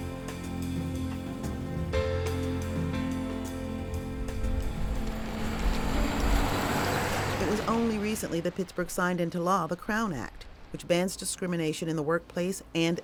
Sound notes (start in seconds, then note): 4.0 car whooshing